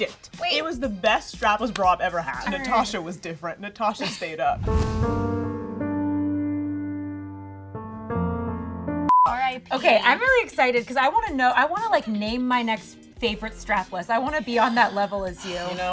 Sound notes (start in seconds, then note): 4.6 somber music; 9.1 beeping